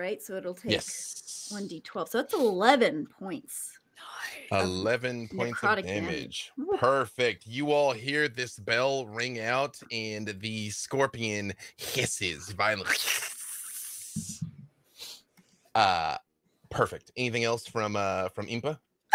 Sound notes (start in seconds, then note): 3.4 whispers; 12.4 hisses